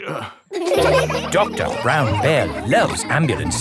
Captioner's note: all laughing